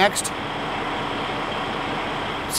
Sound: sfx: engine running

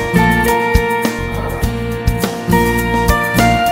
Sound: exhales

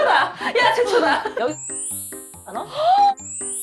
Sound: beep

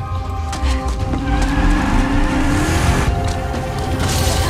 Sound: tires squeal

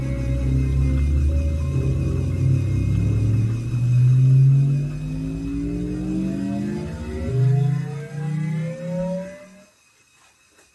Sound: manical laughter; Doomsday Machine hums louder and louder

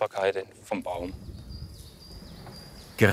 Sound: birds chirping

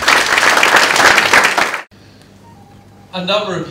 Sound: applause

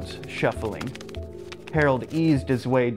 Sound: cards shuffling

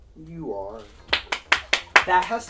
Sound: clapping

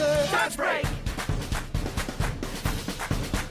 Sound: clapping in time with music

